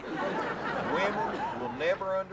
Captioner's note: audience laughing